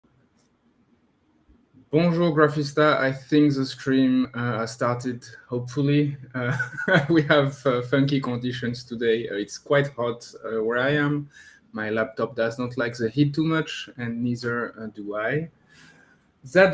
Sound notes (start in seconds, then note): 2.0 speaks in foreign language; 6.4 laughs